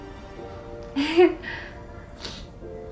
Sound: emma joyfully giggles

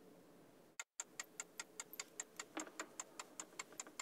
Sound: clock ticking

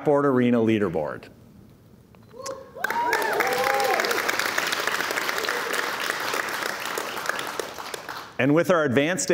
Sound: cheers and Applause

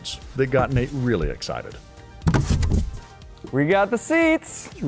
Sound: box opening

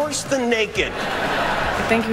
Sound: laughter

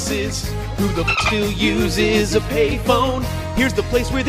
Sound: dolphin noise

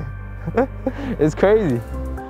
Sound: laughs

